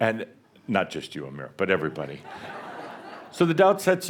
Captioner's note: more laughter